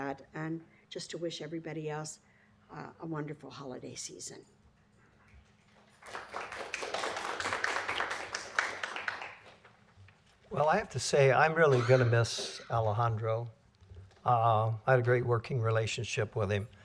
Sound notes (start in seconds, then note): 5.8 applause